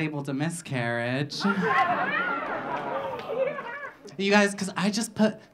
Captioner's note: audience laughing